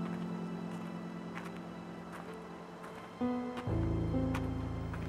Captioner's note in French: des pas approchent